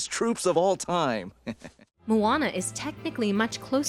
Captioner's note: chuckles